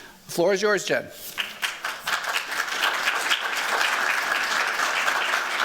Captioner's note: applause